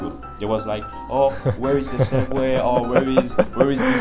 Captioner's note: chuckles